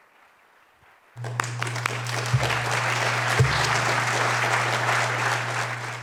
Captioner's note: applause